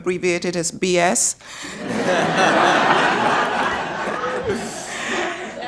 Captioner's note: laughter